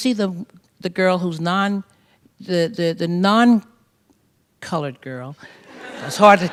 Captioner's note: laughter